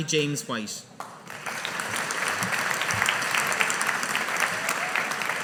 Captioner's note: audience applauding